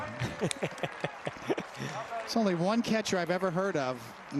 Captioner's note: laughter